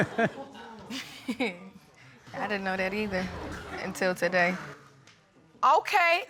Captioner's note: chuckles